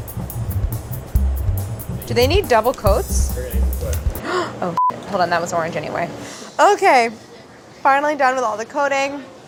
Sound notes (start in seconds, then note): 4.1 gasping